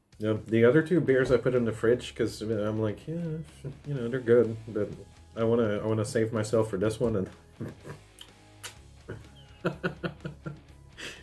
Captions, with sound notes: Yeah, the other two beers I put in the fridge cause I'm like, eh, you know, they're good. But, I want to save myself for this one and... *muah* *laughs*